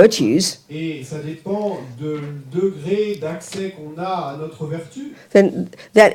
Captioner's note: French